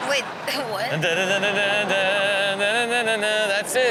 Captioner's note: hums music